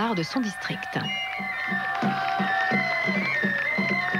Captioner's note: applause